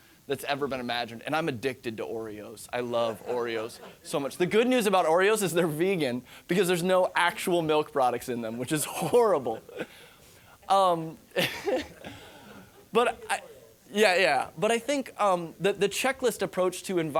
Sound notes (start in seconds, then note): 2.8 audience laughing; 11.2 laughing